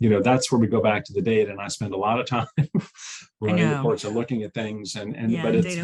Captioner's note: chuckles